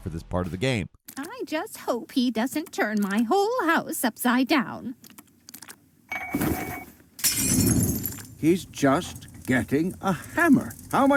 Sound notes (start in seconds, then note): 7.2 glass shattering; 7.3 flames whooshing